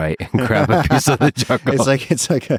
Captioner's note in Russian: Лекс и Пол смеются